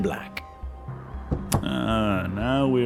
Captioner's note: knocks on the table